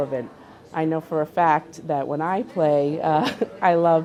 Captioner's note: chuckles